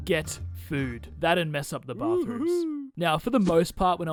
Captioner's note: wooo-hoo-hoooooo